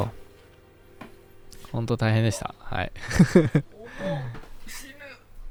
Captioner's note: laughs